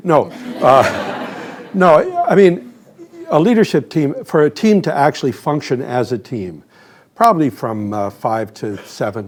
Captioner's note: laughter